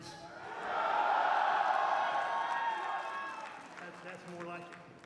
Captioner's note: cheers